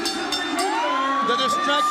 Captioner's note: bell ringing